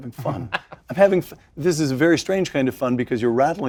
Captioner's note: laugh